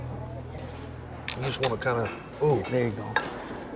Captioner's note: shell cracking